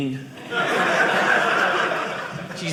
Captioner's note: audience laughing